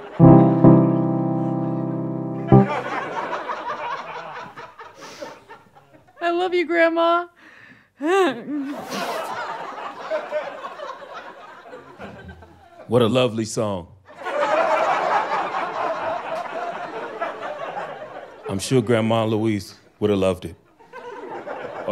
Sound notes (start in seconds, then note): 2.6 audience laughter; 8.0 sobs; 8.8 audience laughter; 14.1 audience laughter